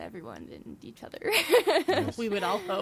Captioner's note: laughs